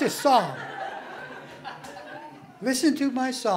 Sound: laughing

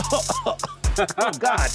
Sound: coughs

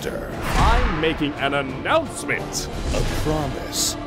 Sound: announcement

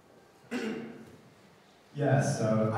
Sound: throat clearing

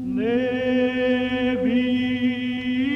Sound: chanting

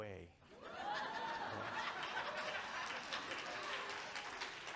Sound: audience cheering

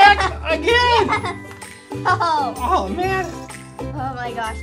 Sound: laughing

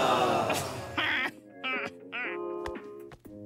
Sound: chortles

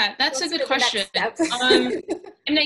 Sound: laughs

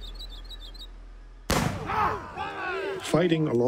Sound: gunshots

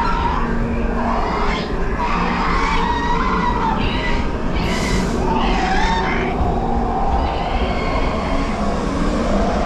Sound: animals screeching; animal sounds; wind blowing, steam venting

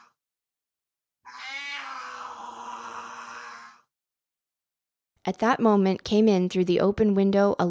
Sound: mysterious shrieking noise

